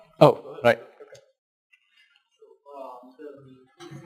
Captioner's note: pause